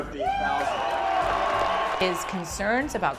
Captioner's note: cheering